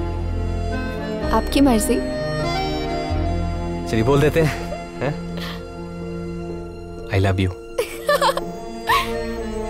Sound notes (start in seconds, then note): 7.8 Laughs